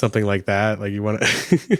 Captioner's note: both laugh